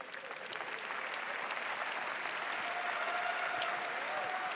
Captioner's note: applause